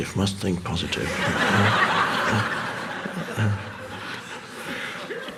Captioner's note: audience laughs